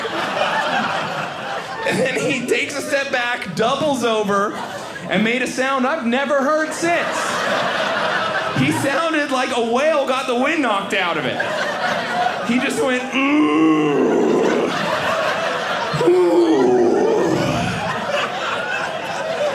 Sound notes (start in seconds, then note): 0.0 audience laughing; 13.1 grunts; 18.9 audience laughing